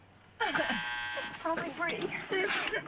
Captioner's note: telephone buzzing